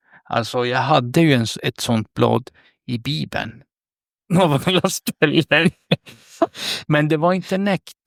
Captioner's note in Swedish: skratt